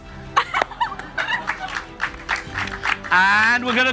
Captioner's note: audience laughs